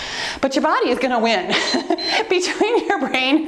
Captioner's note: timer beeps